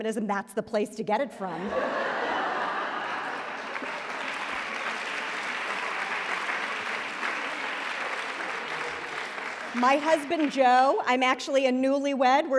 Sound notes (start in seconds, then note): 1.6 laughter; 2.6 applause